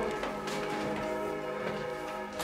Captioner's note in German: Kirchenglocken